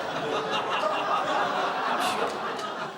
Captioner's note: exhales sharply